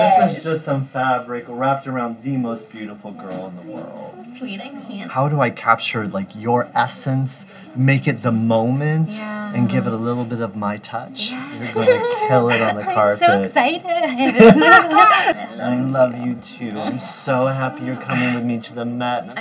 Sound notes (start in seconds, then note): 14.0 both laughing